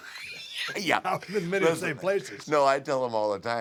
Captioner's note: laugh